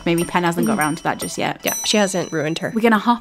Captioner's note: bell dings